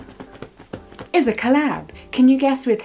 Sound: drumming on pillow

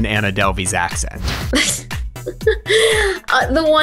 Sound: laughs

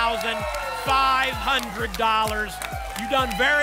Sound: applause and cheering

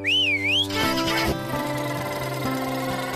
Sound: whistles; engine Cranks & Revs

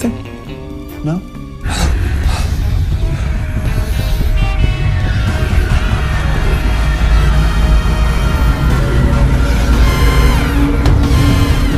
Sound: gasping; fast-paced music

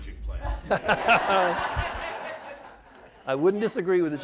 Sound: laughter

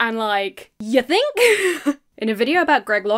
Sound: chuckles

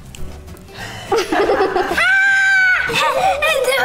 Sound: laughing; laughs

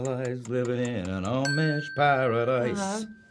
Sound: timer dinging

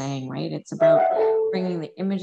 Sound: computer chiming

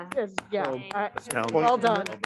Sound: panelists clapping

